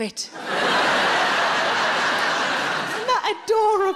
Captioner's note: audience laughing